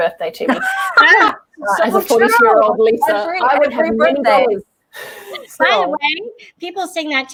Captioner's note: laughter